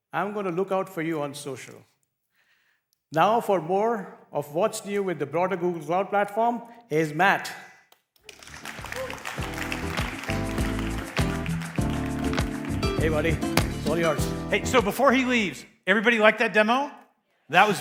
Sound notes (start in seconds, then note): 8.2 applause